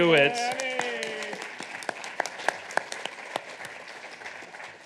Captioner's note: audience applauding